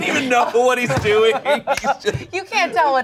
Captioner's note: everyone laughs